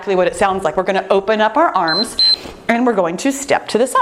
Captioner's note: timer beeping